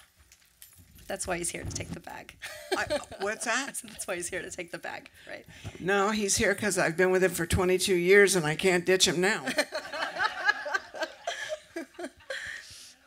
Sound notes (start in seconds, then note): 2.5 laughs; 9.4 laughter